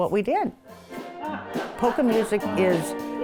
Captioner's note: polka music; laughing